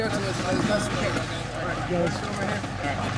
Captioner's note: murmuring